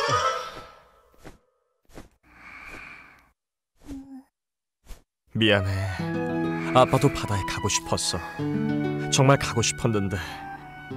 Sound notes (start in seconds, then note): 2.3 sighs